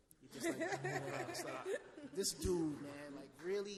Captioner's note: laughs